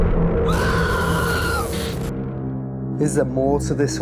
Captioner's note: screaming